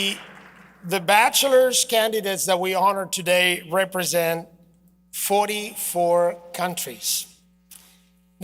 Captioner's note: applause